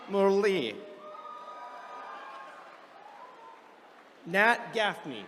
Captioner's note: attendees cheering